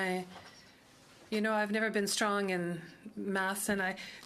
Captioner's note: speaking French